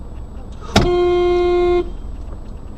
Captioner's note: commotion; bump then beep 1